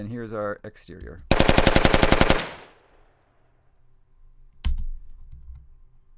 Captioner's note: gun fires multiple times